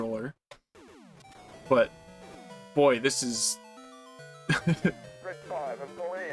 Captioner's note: chuckle